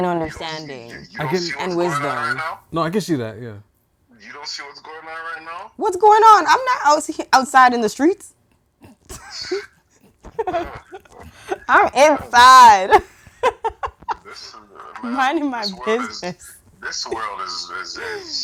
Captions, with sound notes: understanding and wisdom. - No, I can see that, yeah. - You don't see what's going on right now? - What's going on? I'm not outside in the streets. (laughing) I'm inside. I'm minding my business. - This world is this.